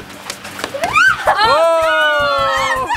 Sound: screaming

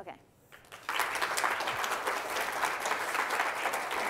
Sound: class clapping

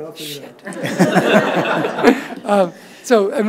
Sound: audience laughs

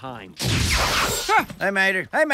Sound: explosion

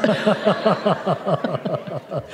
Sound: laughter

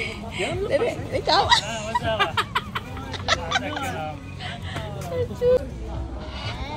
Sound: laughs

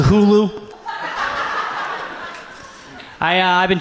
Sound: audience laughs

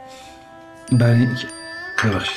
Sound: message beep

